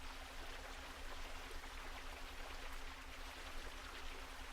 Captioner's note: water gushing